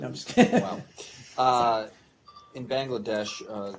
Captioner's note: laughter